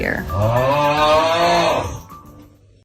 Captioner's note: cries of agony